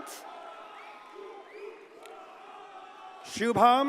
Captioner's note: audience cheers and applauds